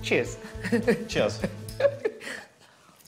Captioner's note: in English